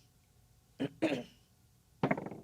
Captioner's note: clears throat; dice rolling